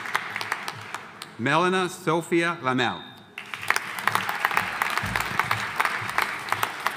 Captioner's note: audience applauding